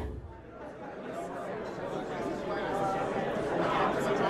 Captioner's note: the chatter of a crowd fills the room, as the crowd members begin mingling